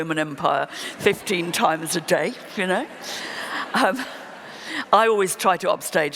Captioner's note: laughter